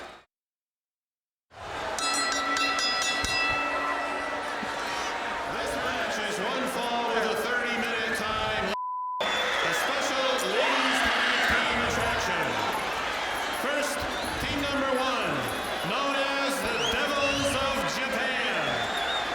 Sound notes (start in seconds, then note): 1.9 bell ringing; 8.7 beeping